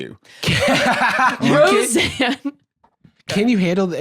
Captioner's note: laughs